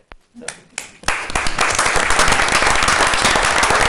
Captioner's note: applause